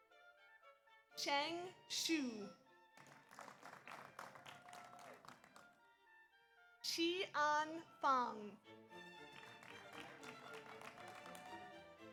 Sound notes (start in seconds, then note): 3.0 audience applauds; 9.0 audience applauds